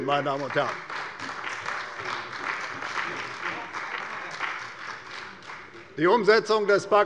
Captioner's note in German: Beifall bei der CDU und dem BÜNDNIS 90/DIE GRÜNEN